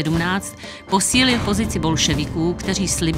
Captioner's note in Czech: bouchnutí dveří